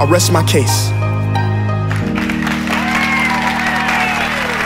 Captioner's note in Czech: potlesk